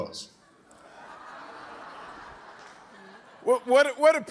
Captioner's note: audience laughing